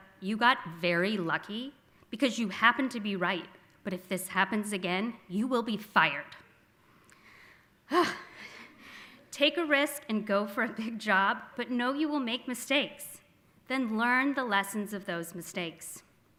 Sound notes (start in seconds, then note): 7.5 gasps